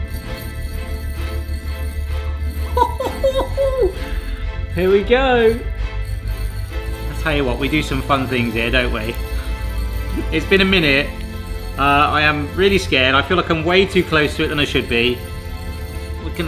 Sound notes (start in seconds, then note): 2.8 chuckling